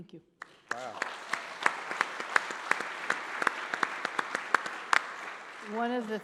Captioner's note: applause